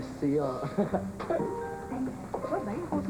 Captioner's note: Il rit